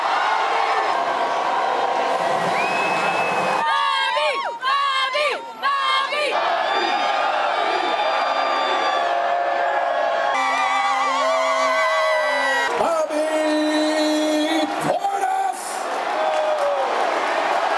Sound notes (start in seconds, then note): 6.3 cheering